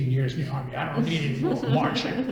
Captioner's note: laughter